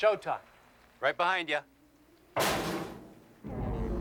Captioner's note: metallic crash